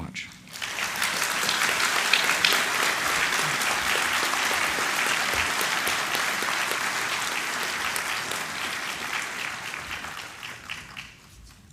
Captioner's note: applause